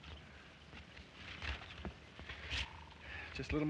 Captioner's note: foliage rustles